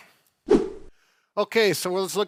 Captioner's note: air whooshes